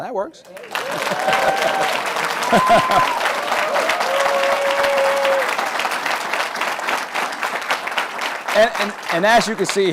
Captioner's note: applause